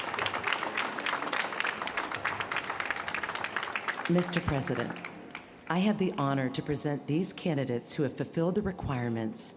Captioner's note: applause